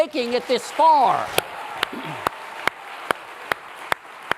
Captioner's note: applause